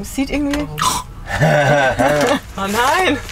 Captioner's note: laughter